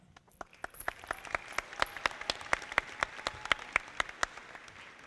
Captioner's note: audience clapping